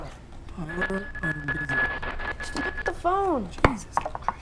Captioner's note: buzzing